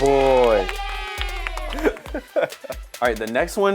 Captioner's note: cheering sounds